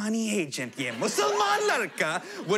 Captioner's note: shouts